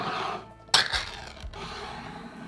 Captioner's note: lid peeling